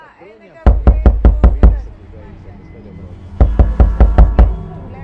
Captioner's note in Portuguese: batida na porta violenta